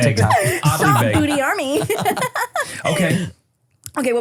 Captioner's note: laughs